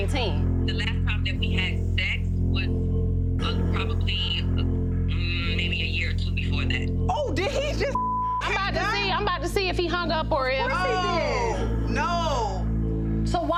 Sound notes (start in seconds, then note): 7.9 beep